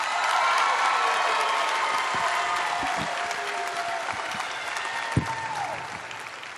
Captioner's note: cheering